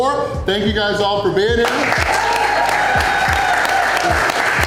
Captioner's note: crowd cheering